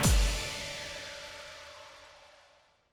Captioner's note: air whooshing